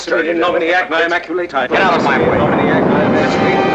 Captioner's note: more chanting